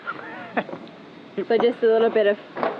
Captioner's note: chuckling